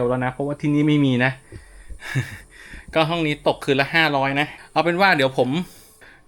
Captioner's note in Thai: เสียงหัวเราะ